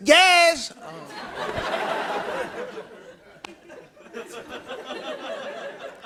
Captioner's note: laughter